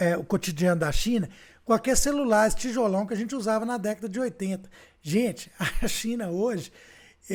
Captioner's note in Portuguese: risadas